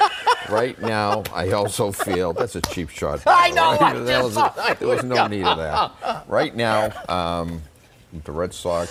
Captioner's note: laughter